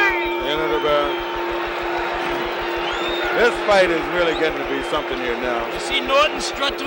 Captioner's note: bell sounds